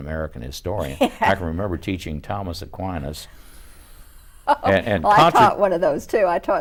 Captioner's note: laughs